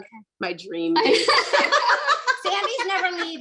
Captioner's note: laughing